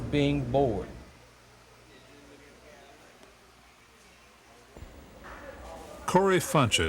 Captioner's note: silence